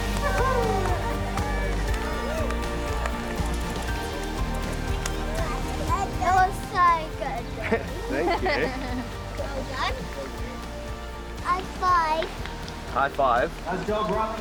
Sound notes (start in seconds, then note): 0.1 triumphant music; 7.5 chuckles